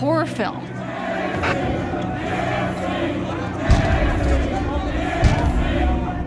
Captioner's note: chanting